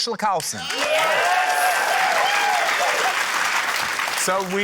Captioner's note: cheering, applause